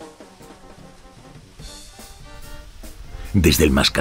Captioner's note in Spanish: Sonido de oleaje suave